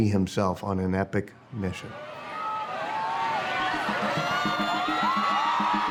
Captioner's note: crowd cheering and applauding